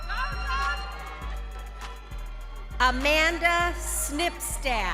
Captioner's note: crowd cheering